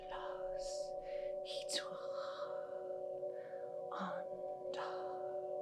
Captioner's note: whispering in foreign language